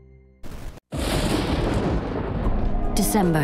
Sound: thunder clapping

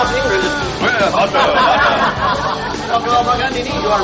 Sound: non-english speech

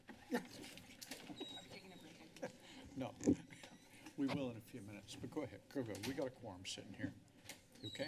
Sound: background conversations

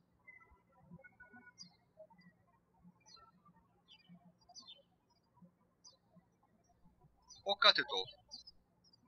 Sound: birds chirping

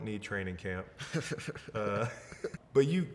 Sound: laughs

